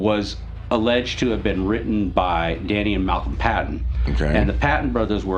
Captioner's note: clears throat